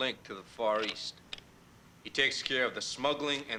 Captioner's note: slide projector clicking